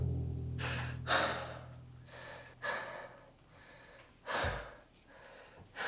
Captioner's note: Rico breathing heavily